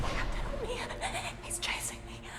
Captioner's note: loud sinister music; shivers